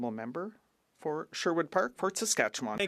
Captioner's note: speaking French